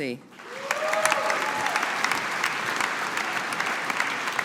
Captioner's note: audience applauding